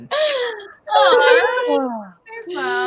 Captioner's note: sighs